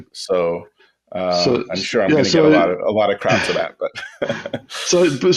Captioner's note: laughs